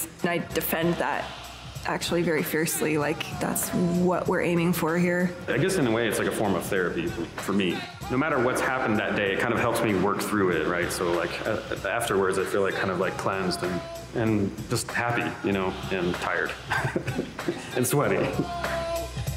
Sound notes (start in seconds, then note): 16.5 laughs